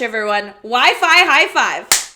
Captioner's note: claps hand